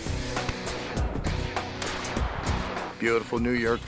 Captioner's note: gun firing